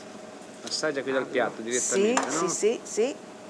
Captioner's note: speaking Italian